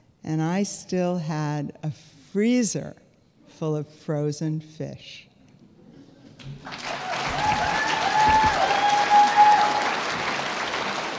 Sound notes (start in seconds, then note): 6.4 audience applauding